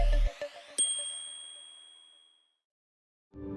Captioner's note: bright music; bell dings